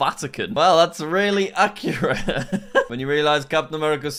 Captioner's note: laughing